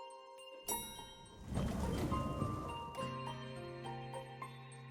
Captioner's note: ding